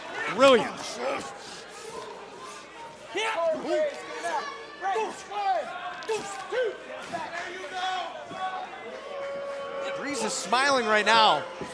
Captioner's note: crowd chatter